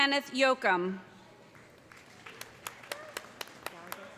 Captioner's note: applause